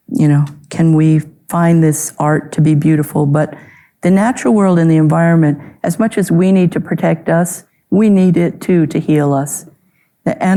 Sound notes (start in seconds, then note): none